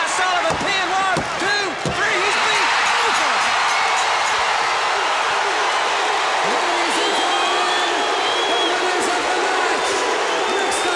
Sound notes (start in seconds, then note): 2.4 audience cheers; 2.7 bell rings; 5.3 audience barks